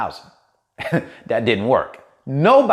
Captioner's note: laughs